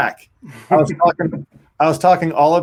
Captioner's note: chuckles